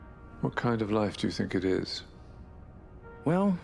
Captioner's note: voiceover